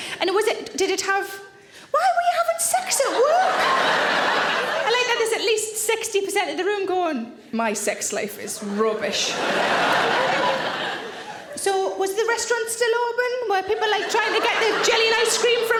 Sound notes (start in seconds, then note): 3.1 audience laughing; 8.9 audience laughing